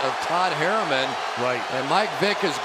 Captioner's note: cheering